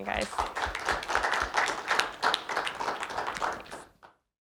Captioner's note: applause